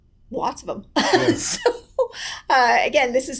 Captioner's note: laughs